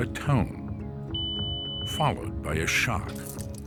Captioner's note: tone beeps